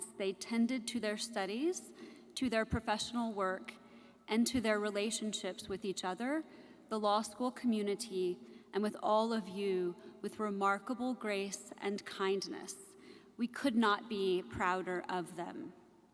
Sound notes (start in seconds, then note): none